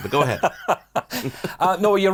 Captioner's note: both laugh